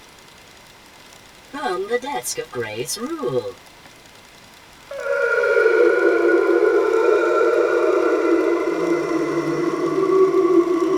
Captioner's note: whale noises